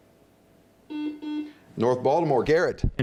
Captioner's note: buzzing